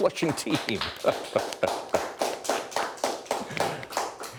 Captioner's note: applause